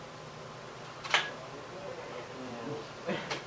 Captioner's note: sound of scissors and aluminum